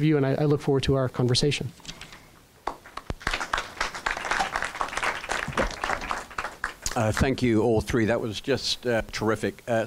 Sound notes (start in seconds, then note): 2.7 applause